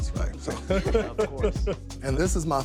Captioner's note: laughing